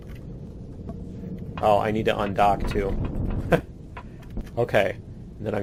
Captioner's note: laughs